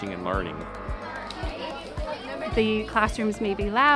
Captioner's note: class chattering